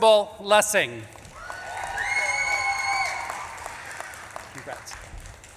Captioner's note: audience claps and cheers